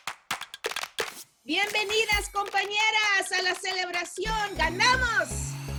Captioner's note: in Spanish